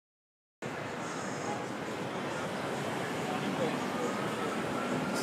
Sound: city life bustling

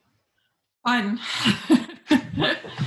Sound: laughs

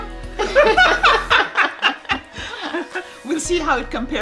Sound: laughing

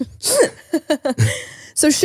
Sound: laughs

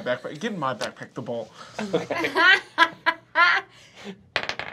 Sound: laughter

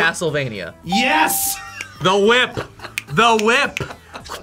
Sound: buzzer barks; laughs

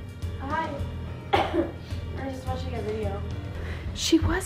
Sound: coughs

